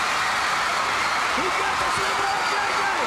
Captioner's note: crowd cheering